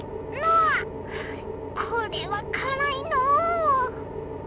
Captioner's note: pained wince